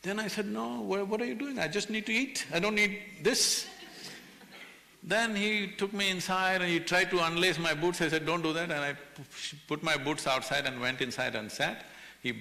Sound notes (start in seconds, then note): 3.4 few laugh